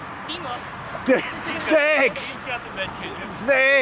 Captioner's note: laughs